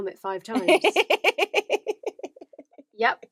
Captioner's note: laughs